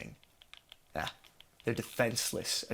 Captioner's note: scoff